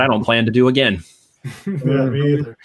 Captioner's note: chuckling